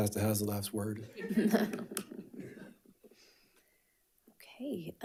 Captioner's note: panelists laughing